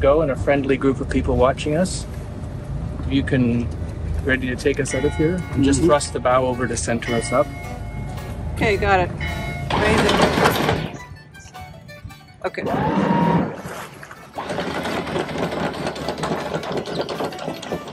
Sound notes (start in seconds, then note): 10.8 chains clanking; 14.2 engine whirring; 14.4 chain clanking